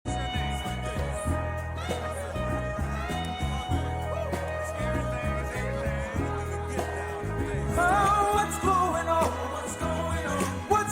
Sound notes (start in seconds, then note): 0.0 soul music; 1.6 group chattering